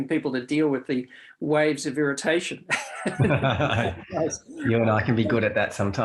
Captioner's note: laughs